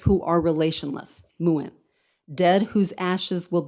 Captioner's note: speaks in foreign language